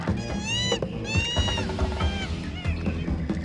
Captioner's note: cheetah screeching